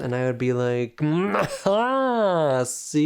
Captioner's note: boisterous laugh